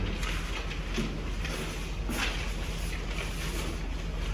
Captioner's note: in Unison; paper rustling